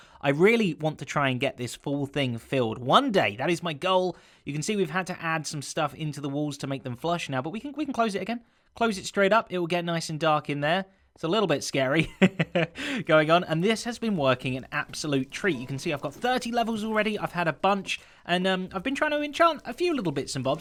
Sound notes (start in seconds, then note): 12.0 chuckles